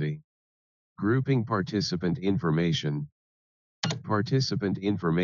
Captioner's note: keystroke sound